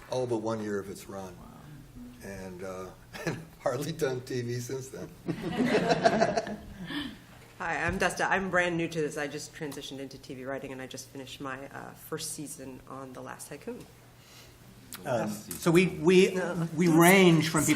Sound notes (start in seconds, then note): 5.2 laughter